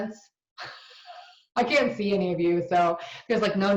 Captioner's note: laughs